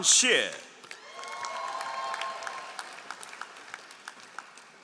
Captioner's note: all applauding